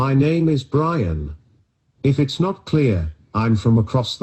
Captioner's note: speaking in British accent